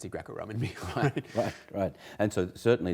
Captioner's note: laughter